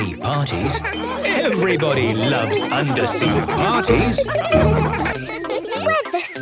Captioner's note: laughter